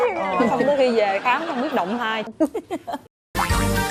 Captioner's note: laughing